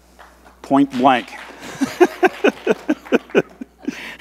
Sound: laughs

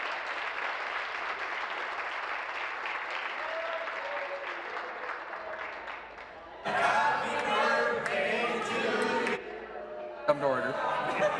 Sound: applause

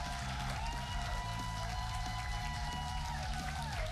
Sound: cheers and applause

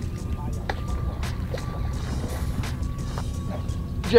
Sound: splashing

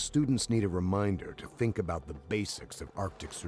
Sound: voiceover

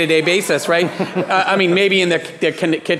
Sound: laughing

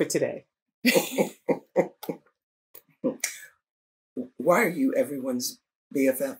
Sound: laughter

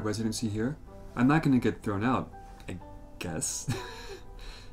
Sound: laughs

